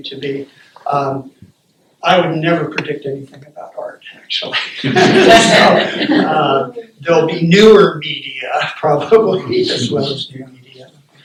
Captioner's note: laughter